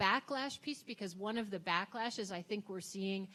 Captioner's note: none